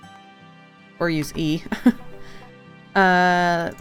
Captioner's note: laughs